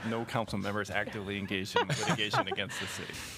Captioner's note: laughter